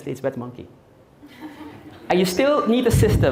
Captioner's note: audience Laughing